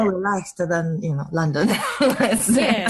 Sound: laughs

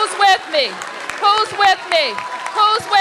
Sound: applause

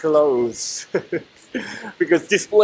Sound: chuckles

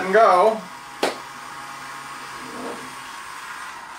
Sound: motor noise

